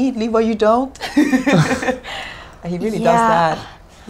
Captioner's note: laughing